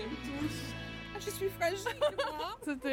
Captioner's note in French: rire